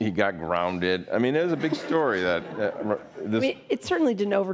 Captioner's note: audience laughing